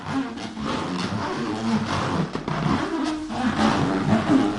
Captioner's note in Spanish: Desagradable sonido al acariciar el balón